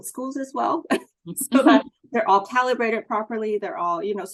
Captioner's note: laughs